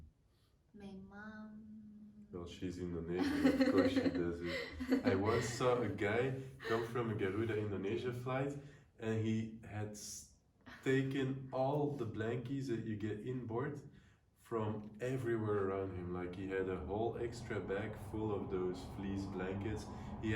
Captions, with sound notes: - My mom-- - Well, she's in the neighborhood, of course she does it. (laughing) I once saw a guy come from a Garuda Indonesia flight and he had taken all the blankies that you get in board from everywhere around him, like he had a whole extra bag full of those fleece blankets.